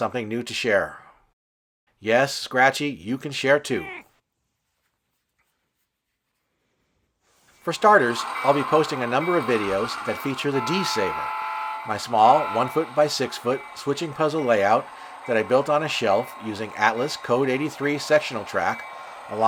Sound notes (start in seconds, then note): 3.8 meow